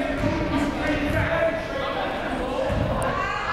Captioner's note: crowd noise